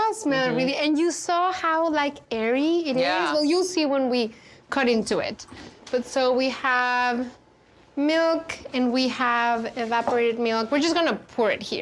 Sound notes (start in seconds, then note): none